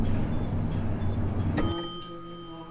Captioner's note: elevator ding; singing